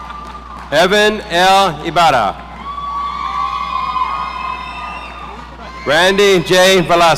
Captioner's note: people laughing; audience cheering